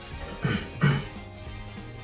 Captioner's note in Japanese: 咳払い